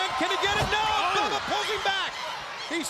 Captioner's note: crowd cheering